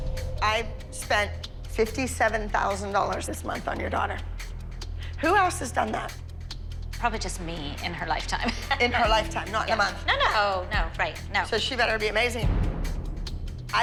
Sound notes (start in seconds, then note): 8.4 laughing